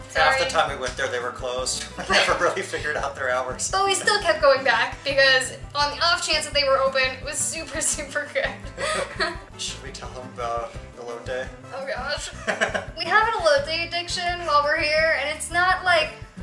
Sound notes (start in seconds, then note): 1.9 laughter